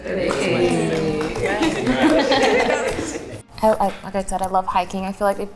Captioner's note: everyone applauding